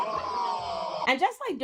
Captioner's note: groaning